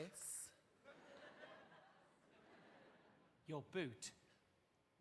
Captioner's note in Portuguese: audience laughing